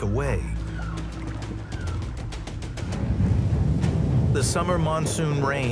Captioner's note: birds chirp; lively suspenseful music